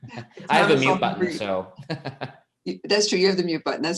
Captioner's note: chuckles